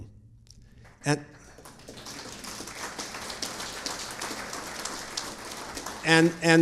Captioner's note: audience applauding